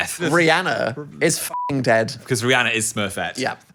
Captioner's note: beep